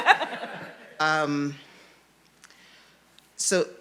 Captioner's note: panelists laughing